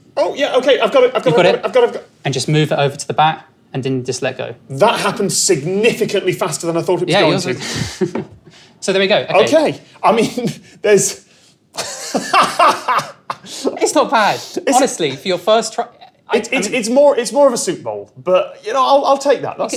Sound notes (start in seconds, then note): 11.8 laughs